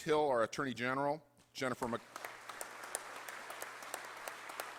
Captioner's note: applause